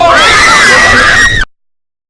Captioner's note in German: Schreie